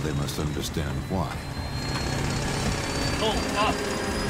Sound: rattling

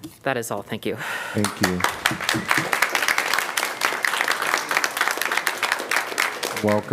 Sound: applause

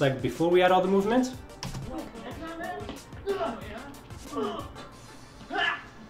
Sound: grunting and punching

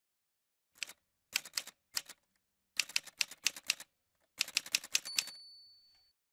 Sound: typewriter sounds

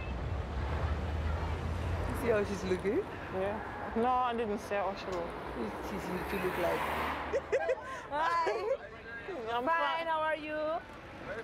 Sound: speaking foreign language

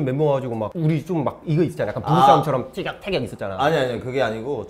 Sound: arguing

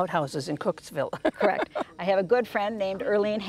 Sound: Jennifer Ehle laughs

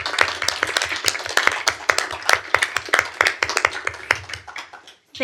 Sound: applause

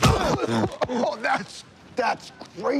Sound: blows landing; coughing

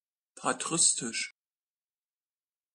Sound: fast Pronunciation

